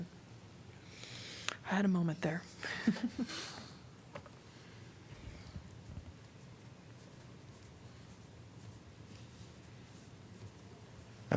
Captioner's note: laughter